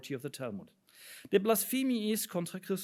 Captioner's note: speaks in foreign language